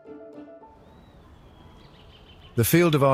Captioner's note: birds chirping